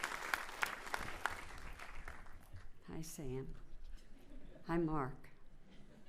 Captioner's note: cheering and applauding